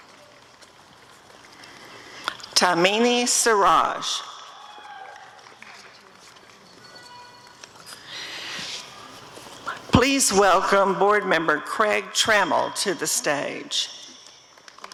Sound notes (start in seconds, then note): 4.5 applause and cheering